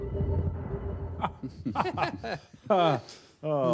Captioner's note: chuckling